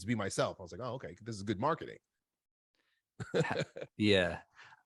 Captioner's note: laughs